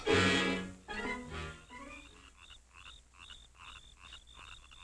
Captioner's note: frogs croaking